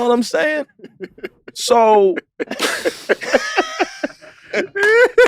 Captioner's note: laughing